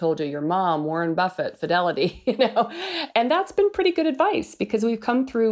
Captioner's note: laughs